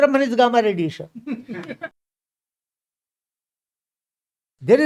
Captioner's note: laughs